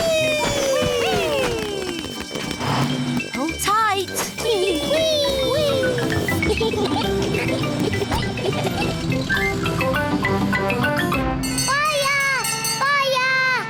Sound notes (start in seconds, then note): 6.8 giggling; 11.4 bell rings